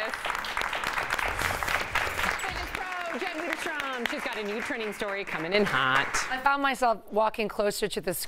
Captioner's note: applause